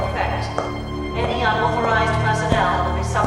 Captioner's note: intense music; shoes clacking